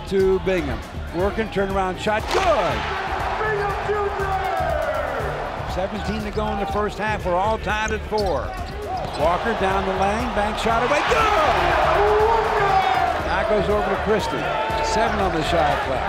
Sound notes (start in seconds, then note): 2.2 crowd cheering